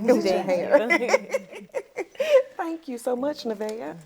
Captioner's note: laughs